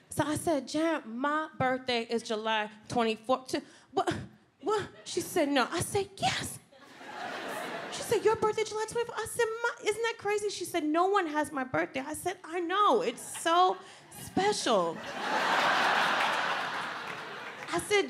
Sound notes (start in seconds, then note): 3.5 Michelle stammers; 6.9 audience laughs; 14.8 audience laughs